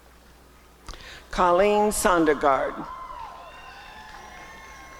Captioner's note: applause and cheering